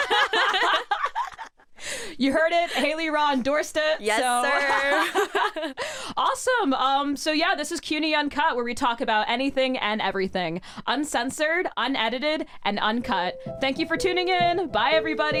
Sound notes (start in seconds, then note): 0.0 both laugh; 4.1 laughs